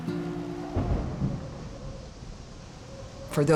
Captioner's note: thunder